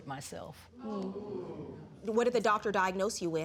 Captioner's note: audience exclaims